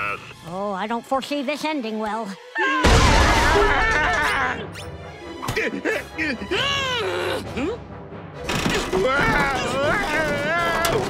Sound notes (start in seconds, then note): 2.5 screaming; 5.1 grunting; 6.1 yells; 8.8 yelling